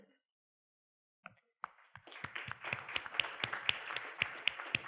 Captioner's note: audience applauding